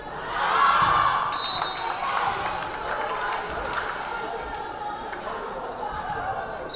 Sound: crowd cheering; whistle blaring

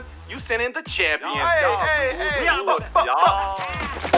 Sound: cheers

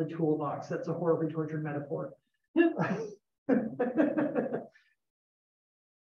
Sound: laughter

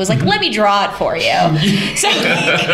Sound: laughter

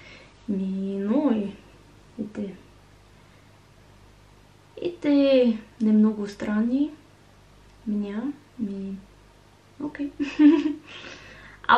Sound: Russian

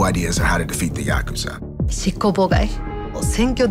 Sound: speaking in japanese

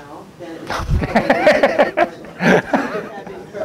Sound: laughter

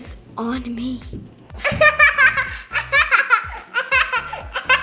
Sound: laughing

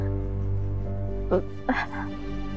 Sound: stammering

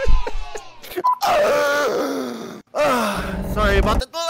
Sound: laughter; choking cont

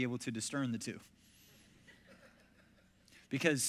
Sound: congregation chuckles

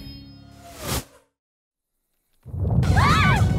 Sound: rumbling and screaming; all scream

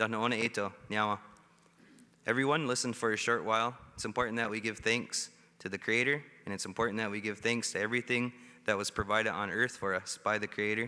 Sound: speaking Indigenous Language

